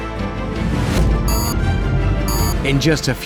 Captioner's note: beep, beep